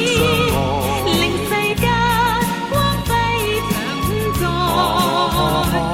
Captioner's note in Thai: ฮ่า ฮา ฮา ฮ้า